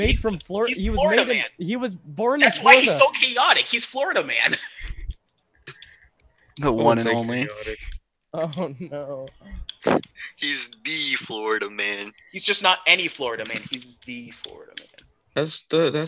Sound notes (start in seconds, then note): 9.7 coughs